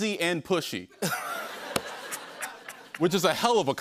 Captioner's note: laughter